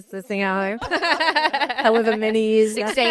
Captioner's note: all laughing